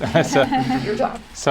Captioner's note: laughter